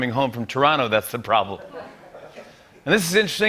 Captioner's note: laughter